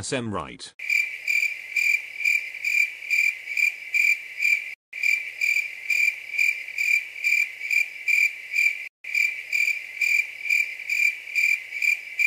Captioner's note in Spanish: grillos